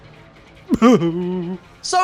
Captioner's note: sobs